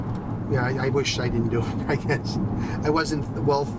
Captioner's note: laughs lightly